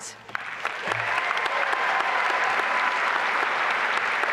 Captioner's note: applause and cheering